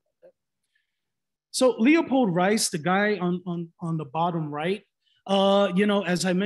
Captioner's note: stutters